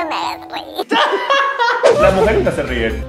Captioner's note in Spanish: risas